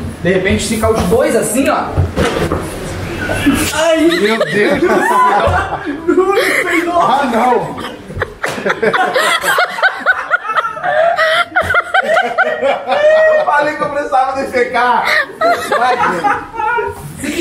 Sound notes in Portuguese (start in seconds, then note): 3.2 risadas